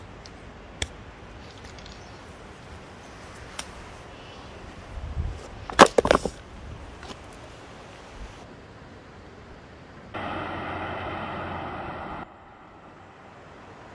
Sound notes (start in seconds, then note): 5.3 shoes hitting the ground; 10.1 receding car sounds